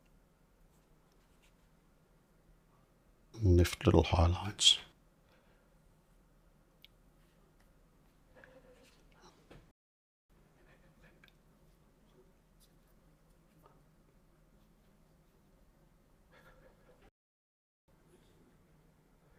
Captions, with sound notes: Lift little highlights. [silence]